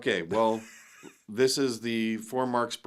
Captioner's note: laughing